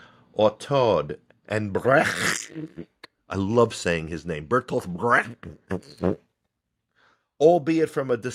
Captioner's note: phlegm